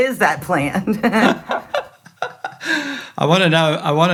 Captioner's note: both laughing